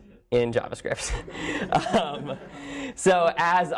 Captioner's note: laughter